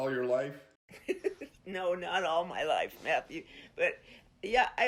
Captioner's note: laughs